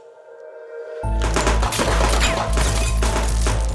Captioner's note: bullets ricochet; glass breaking; gunshots; wall debris falling